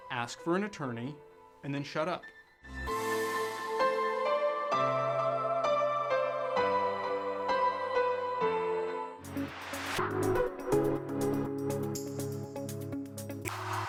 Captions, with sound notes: Ask for an attorney and then shut up. (upbeat music) (air whooshing) (upbeat music)